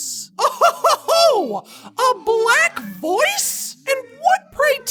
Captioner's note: laughs